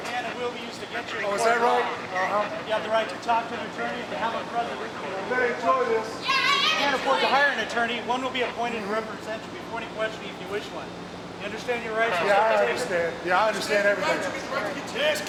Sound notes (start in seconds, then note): 5.7 overlapping chatter